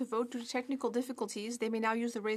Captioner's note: speaking French